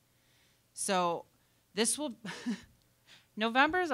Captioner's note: chuckling